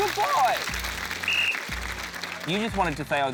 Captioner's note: blows whistle